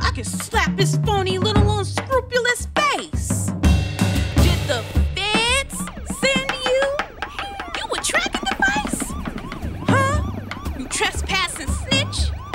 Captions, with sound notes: I could slap his phony little unscrupulous face. Did the Feds send you? -You a tracking device? -(siren blaring, helicopter whirring) Huh? You trespassing snitch.